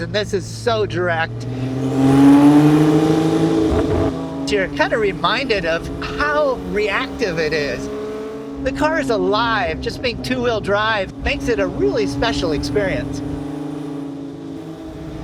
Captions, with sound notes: and this is so direct. (engine revving) You're kinda reminded of how reactive it is. The car is alive. Just being two-wheel drive makes it a really special experience.